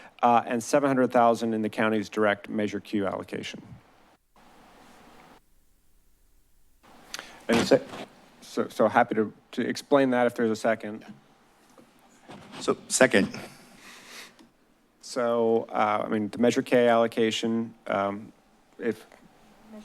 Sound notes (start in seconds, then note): 4.0 silence